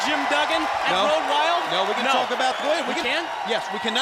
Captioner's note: crowd cheering